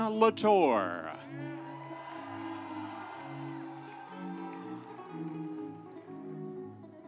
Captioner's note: audience cheering; instrumental music